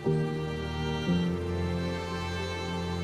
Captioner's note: birds chirping